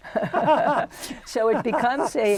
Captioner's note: laughter